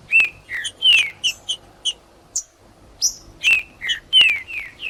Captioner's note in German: trinca ferro cantando